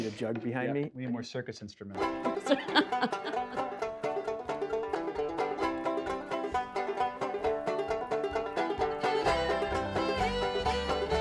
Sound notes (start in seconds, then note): 2.0 twangy music; 2.3 laughing